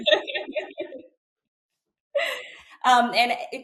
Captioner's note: laughing